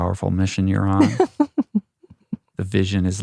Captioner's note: laughs